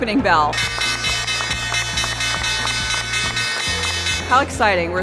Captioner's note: bells ringing